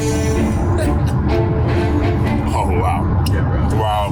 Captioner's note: laughs